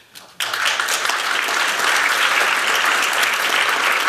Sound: applause

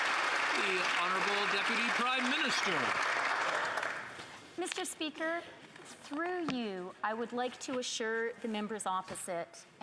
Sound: some Applause

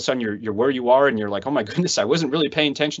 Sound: laughs

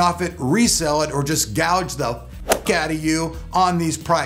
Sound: thwacks

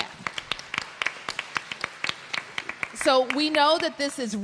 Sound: applause

